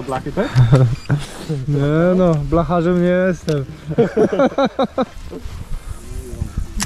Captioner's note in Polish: śmiech